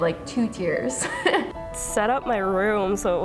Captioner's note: laughs